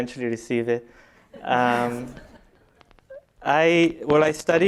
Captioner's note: laughter